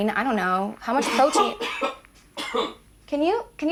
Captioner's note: Tyler coughing